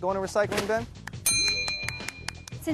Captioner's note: dings